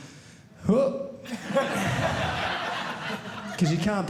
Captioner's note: audience laughing